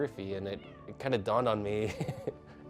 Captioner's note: meowing; laughs